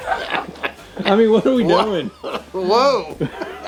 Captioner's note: farts; laughing